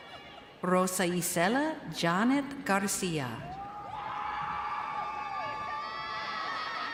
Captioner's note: crowd cheering